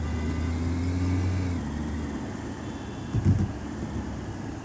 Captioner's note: engine rumbling